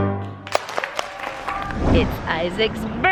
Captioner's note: audience applauding happily